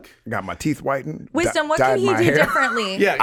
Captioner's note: chuckles